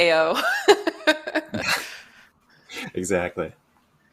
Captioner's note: laughs